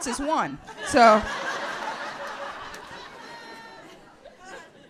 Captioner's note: audience laughs